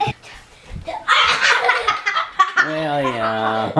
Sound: laughs

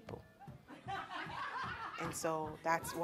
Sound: women laughing

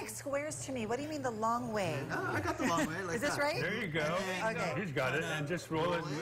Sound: laughter

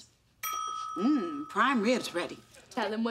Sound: dinging

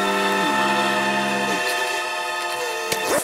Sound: shuddering

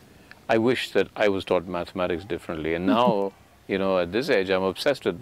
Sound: Sadhguru laughs

